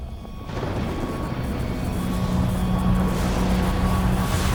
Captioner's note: thunder rumbling; electrical crackling